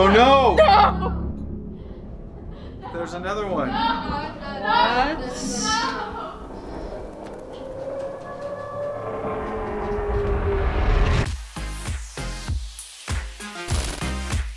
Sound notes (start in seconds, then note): 6.8 scary howling and rumbling; 11.8 upbeat music